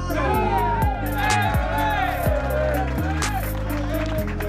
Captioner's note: cheering